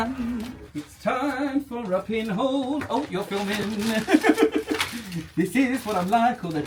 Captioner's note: laughs